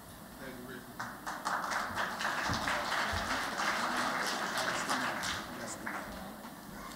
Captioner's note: applause